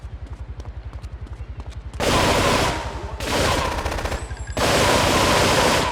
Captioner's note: gun firing